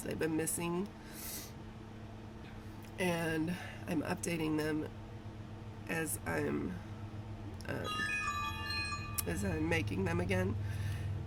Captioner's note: message noises